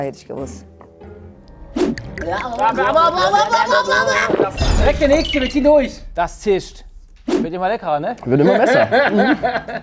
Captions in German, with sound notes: Ja, hätt ich gewusst. (Ekelgeräusche) Direkt der Nächste, wir ziehen durch. Das zischt. Wird immer leckerer, ne? - Wird immer besser.